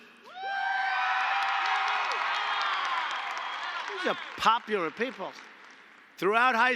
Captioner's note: applause